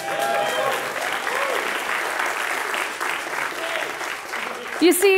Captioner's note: applause